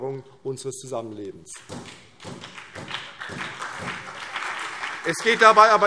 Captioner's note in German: Beifall CDU, vereinzelt BÜNDNIS 90/DIE GRÜNEN und SPD